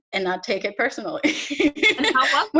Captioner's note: laughs